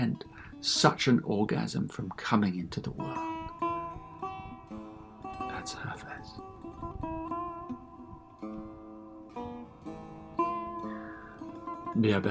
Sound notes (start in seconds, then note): 4.8 reading in Farsi